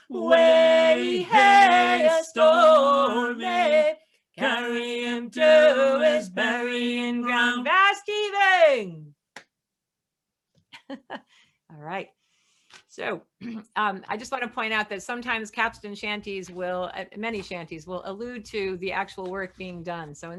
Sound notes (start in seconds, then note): 10.7 laughs